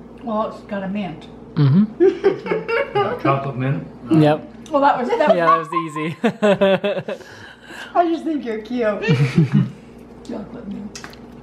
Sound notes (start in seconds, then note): 2.0 laughter; 4.8 laughter; 5.2 laughs